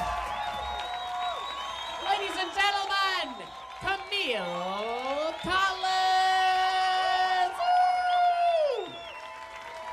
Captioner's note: cheers